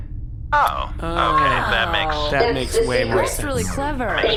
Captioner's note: everyone makes ‘oh’ noises of understanding